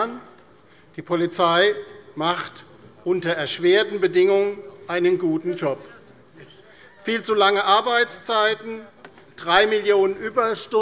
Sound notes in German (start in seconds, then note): none